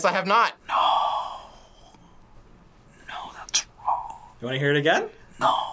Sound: whispers

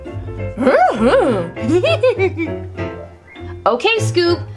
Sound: Scooby snickers

